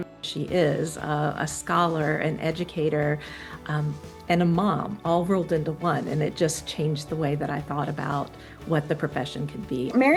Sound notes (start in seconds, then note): none